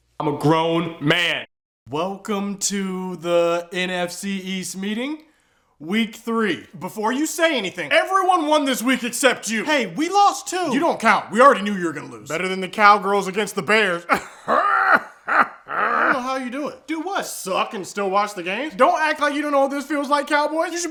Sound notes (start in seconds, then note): 14.0 even weirder laughing